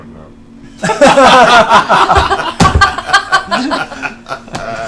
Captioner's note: all laugh